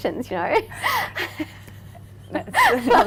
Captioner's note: both laughing